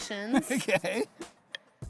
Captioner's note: laughs